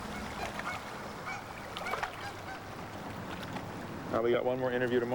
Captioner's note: geese honking